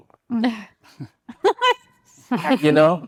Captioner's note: chuckles